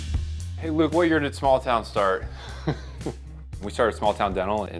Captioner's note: chuckles